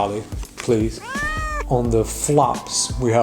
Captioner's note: cat meows